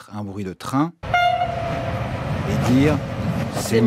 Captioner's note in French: Klaxon de train